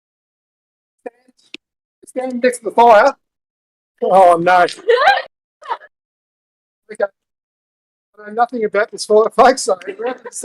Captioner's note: audio dropout